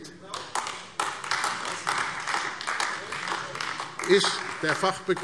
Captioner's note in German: Beifall AfD